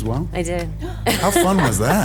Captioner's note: laughs